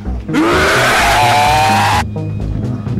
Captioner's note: roaring